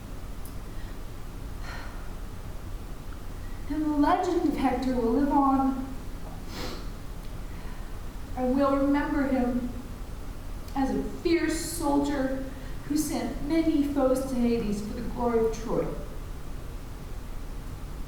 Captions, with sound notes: [sigh] And the legend of Hector will live on [sniffles] and we'll remember him as a fierce soldier who sent many foes to Hades for the Glory of Troy.